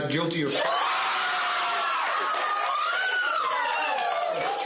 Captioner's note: audience cheering